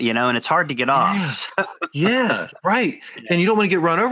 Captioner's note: laughs